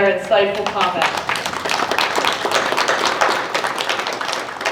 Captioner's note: applause